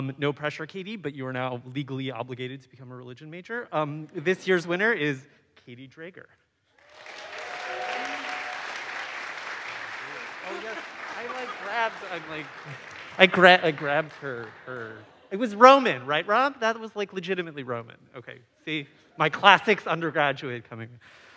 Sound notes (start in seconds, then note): 7.2 audience applauds; 7.2 audience cheers